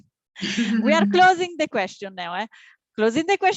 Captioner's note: laughter